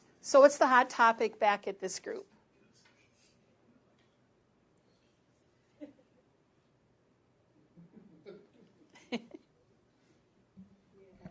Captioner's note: pause